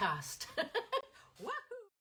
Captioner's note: laughs